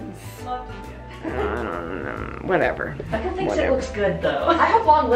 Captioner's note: grumbles